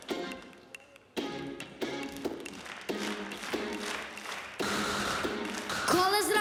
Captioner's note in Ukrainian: оплески